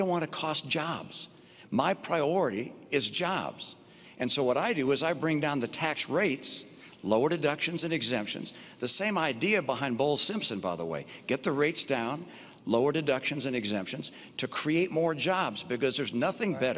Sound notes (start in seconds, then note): none